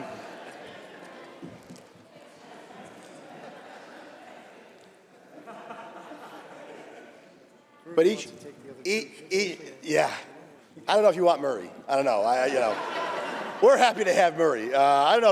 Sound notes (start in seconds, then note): 3.2 laughter